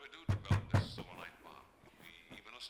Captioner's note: pounding on door